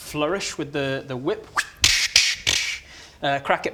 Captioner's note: flourishy whippy noises